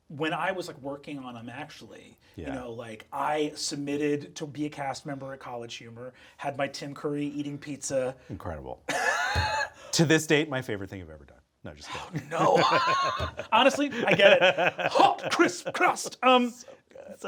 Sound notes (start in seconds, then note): 8.9 Brennan laughing; 9.2 fist thumping; 11.9 laughs